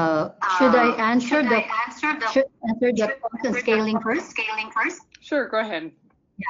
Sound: video echoes

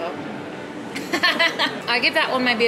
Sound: laughing

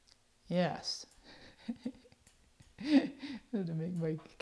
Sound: chuckles

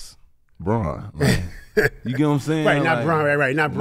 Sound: Metta laughs

